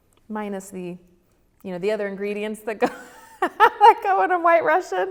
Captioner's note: laughs